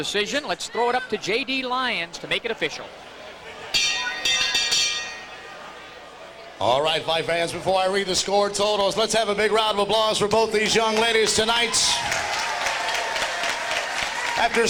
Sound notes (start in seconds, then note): 3.7 bell rings; 10.8 applause, cheering from audience